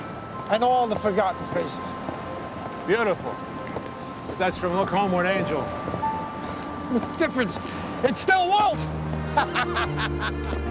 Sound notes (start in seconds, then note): 9.3 laughing